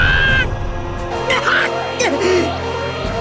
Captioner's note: pained cry; pained groan